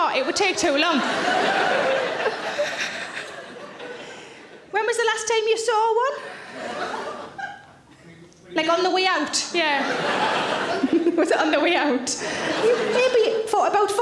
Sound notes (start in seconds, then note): 1.6 audience laughs; 2.2 Sarah laughs